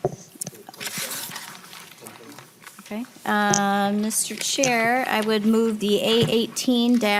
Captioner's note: gavel